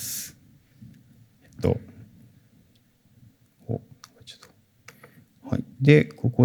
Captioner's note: silence